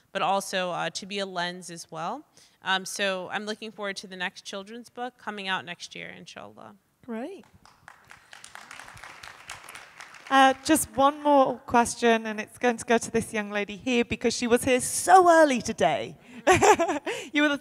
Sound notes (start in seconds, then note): 7.6 audience applauding; 16.4 laughs